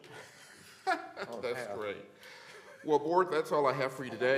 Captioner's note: laughter